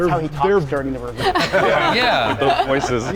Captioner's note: all laughing